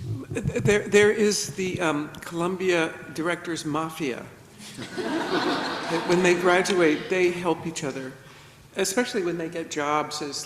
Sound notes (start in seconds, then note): 4.7 everybody laughs